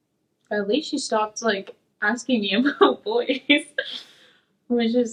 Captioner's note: laughs